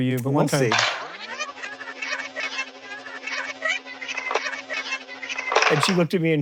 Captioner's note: tape whirs